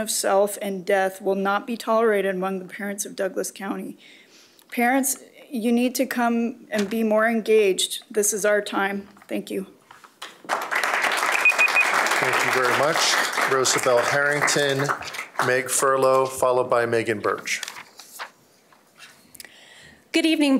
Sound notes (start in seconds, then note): 12.4 applause